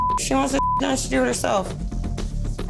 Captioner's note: beep